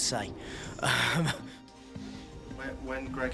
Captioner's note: laughs